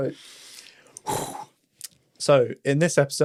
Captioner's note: breaths heavily